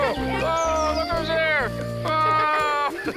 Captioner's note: laughing continues